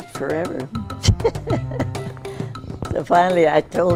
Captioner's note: she laughs